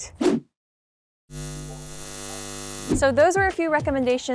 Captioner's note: electricity static